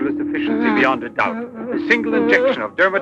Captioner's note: Sacha jabbering